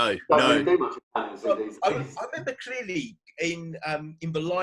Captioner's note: murmuring